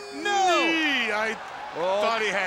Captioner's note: crowd cheering